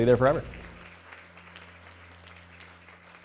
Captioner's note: clapping